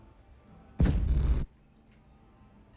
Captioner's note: crack